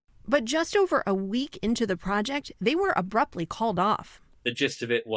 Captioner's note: voice-over